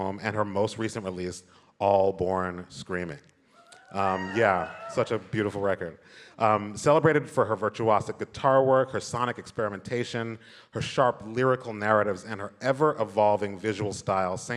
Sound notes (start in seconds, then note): 3.7 audience cheers